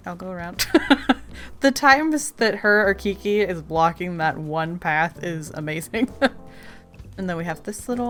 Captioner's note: laughs; laughs